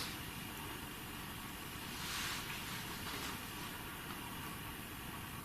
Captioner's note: none